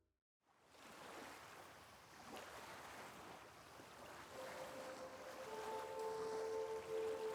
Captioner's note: peaceful music; waves splash